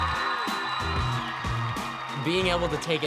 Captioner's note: crowd roars